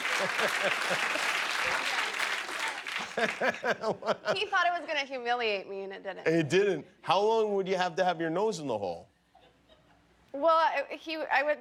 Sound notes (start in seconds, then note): 3.0 laughter